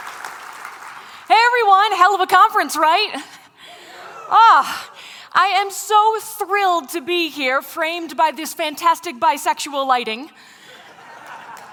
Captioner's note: laughter